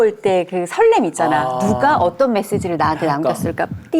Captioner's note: heart pounding and fluttering